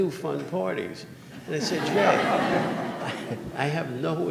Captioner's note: audience laughing